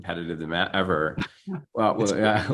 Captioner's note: chuckles